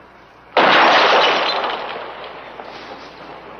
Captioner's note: glass clinking; gun firing